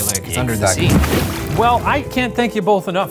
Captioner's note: water rushes